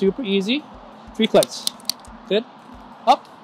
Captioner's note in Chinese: 喀嚓的声音